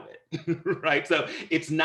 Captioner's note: laughter